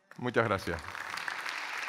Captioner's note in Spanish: Aplausos